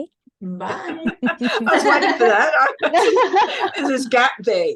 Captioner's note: everyone laughed